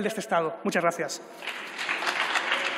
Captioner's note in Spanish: Aplausos